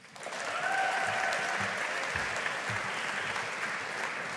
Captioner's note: audience applauding